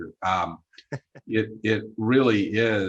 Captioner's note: chuckles